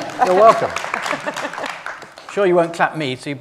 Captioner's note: applause